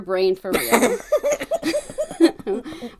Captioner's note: laughs